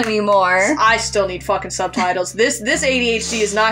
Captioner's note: chuckle